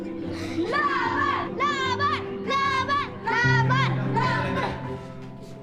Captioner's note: chanting in foreign language